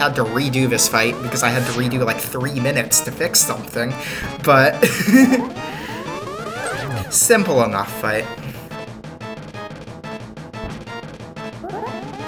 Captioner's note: laughs